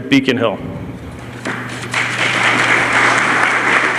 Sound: applause

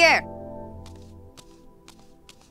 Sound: footsteps

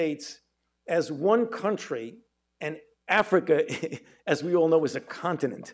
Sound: chuckles

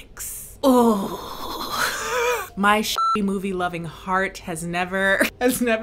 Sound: laughs; beep

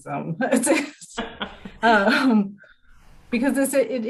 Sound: all laughing

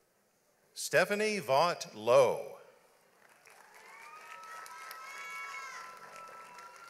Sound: audience applauds

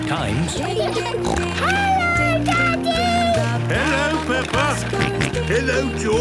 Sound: snorting; George snorting

